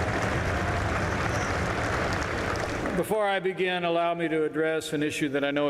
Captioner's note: applause